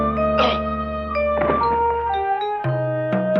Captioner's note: Jimmy grunting; body thudding